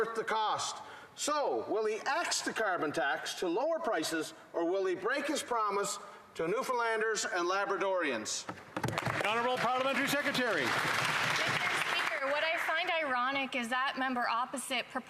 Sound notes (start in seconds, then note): 13.2 some Applause